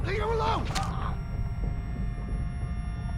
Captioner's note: stabbing sound